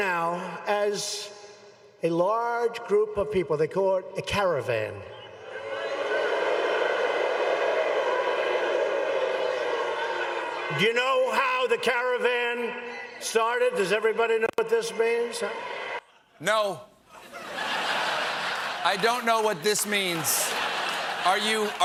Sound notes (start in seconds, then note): 9.4 booing; 17.1 laughter